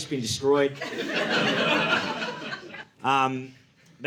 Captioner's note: audience laughing